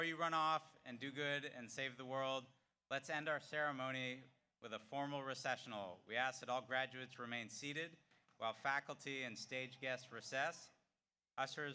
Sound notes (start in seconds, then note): none